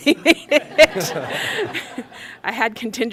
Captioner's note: laughter